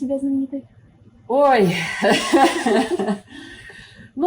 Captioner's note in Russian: Неловкий смех